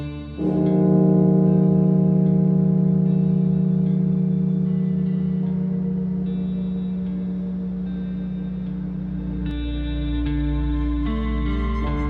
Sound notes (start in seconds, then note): 0.7 bell tolling; 4.4 somber music